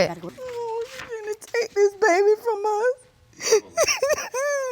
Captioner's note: sobbing; sobbing continues